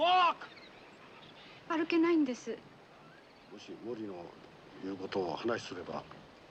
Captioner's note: speaking japanese